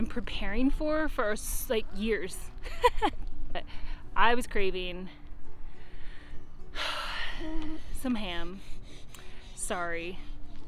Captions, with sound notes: preparing for, for years (chuckling). I was craving (exhaling) some ham, sorry.